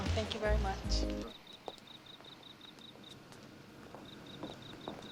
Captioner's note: crickets chirping